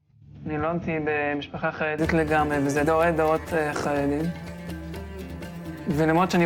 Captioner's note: young man speaking in foreign language